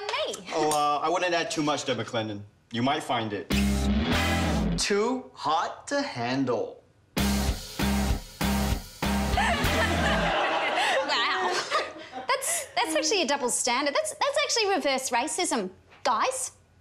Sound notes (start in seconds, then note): 7.2 dramatic music; 9.3 laughing